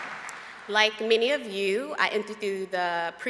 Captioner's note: applause